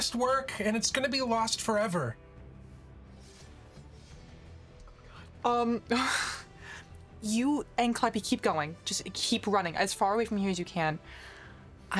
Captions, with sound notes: he went on fishing trips with, the little girl who wouldn't stop following him around. (sighs) He looks up at the